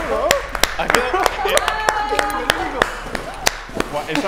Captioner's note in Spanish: aplaude; aplauden; aplaude